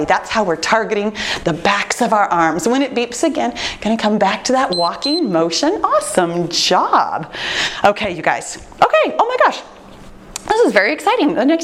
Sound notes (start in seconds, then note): 4.7 timer beeps